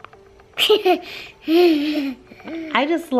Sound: laughs

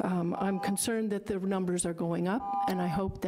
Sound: buzzer rings; buzzer rings

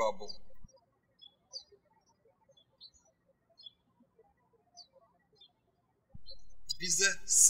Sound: birds chirping

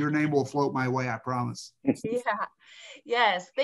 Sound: chuckles

